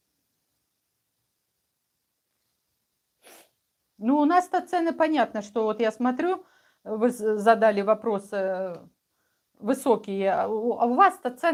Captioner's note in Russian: фыркает